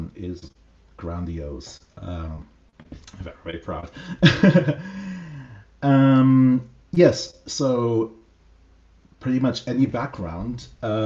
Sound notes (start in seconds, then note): 3.8 laughs